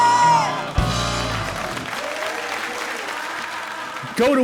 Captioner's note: audience applauds